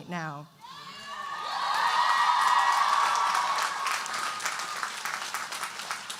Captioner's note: audience cheering and applauding